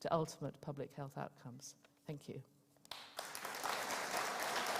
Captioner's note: applause